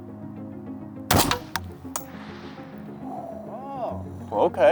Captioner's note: gun fires